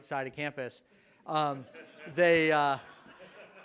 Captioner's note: audience laughs